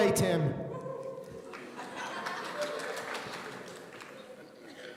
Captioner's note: audience applauding